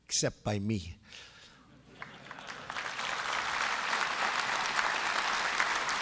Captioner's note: applause